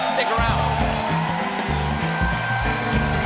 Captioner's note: applause